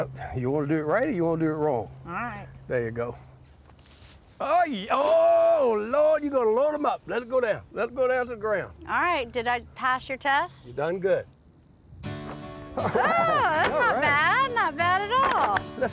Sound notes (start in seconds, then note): 12.7 chuckles